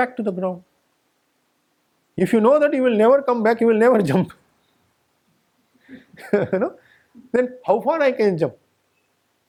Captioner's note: giggles